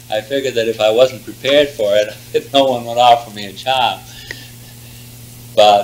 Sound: laughs; laughs

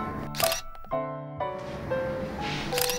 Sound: camera shutter

